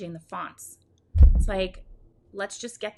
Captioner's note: hands thudding